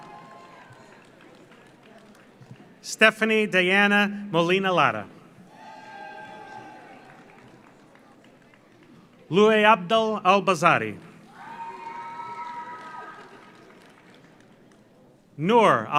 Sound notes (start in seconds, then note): 0.0 audience cheers; 0.0 audience applauds; 5.4 audience cheers; 5.5 audience applauds; 11.3 audience cheers; 11.3 audience applauds